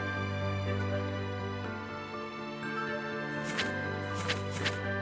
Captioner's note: pages rustling